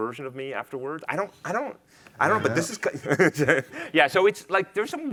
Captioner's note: chuckles